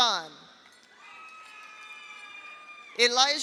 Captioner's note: audience applauds; audience cheers